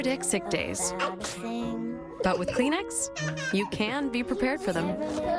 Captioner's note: son sneezes on dad